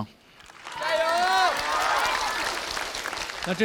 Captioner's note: cheering